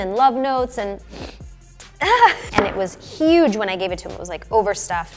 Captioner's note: sniff